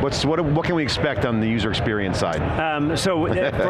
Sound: laughs

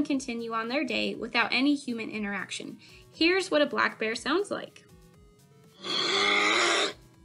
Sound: black Bear noises

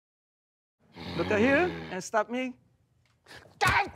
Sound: growling; shouts, screams

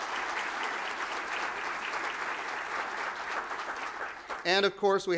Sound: applause

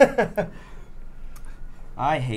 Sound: chuckles

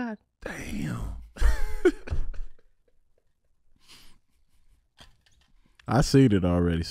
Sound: laughing

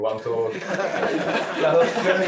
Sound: laughter

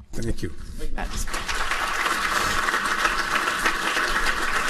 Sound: applauding

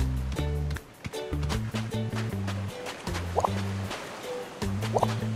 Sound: steps

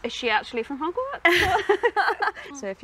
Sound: both laugh

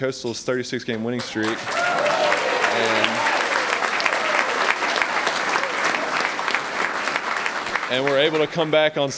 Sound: applause

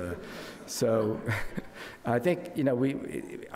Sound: crowd laughs

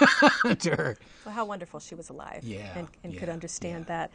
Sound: laughter

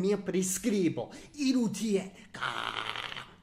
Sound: growling noise

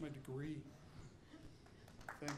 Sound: audience applauding

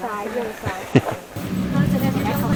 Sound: laugh

